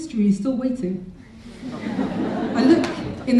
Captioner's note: audience laughing